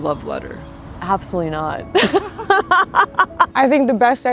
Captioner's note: laughing